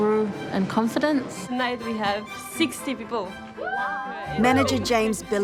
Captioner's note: waiters cheer